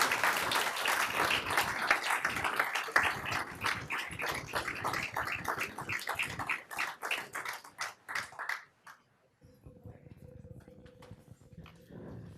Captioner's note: applause